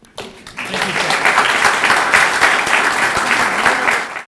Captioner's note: audience applauding